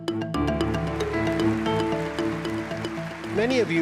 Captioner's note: upbeat music; clapping